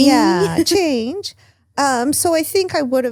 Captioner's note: laughs